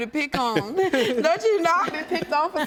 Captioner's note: laughs